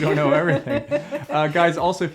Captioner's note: laughs